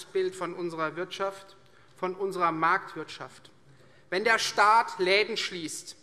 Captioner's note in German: none